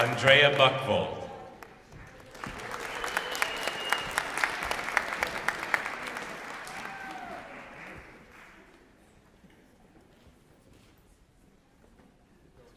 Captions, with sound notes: Andrea Buckvold. [ Applause ]